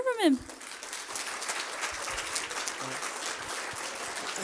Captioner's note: applause